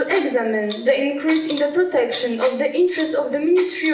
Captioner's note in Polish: Po angielsku